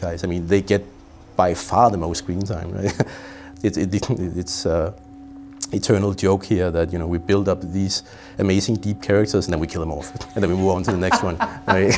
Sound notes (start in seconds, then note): 2.8 chuckles; 11.7 laughing